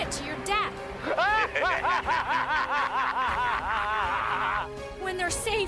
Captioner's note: laughing